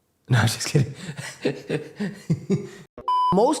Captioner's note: laughter